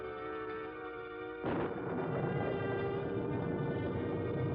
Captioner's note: thunder crashes